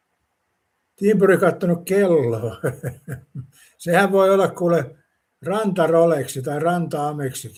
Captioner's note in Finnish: naurua